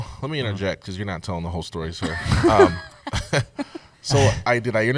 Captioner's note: laughter